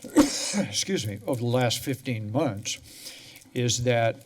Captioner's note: coughs